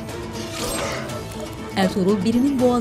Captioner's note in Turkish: Kılıç sesi